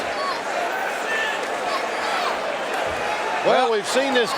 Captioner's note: audience cheering